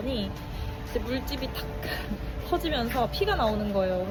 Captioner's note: ugh